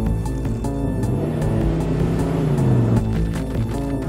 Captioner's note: engine revving